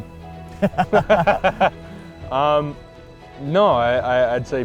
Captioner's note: laugh